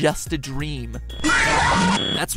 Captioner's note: screeching Noise